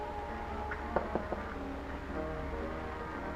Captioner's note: knocking